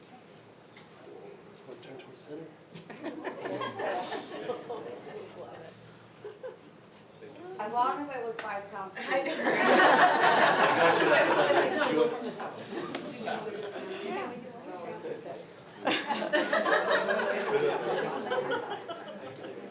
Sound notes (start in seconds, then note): 2.6 speaks faintly; 2.8 attendees laughing; 9.1 everyone laughing; 15.7 attendees laughing